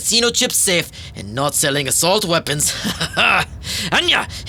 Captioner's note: laughs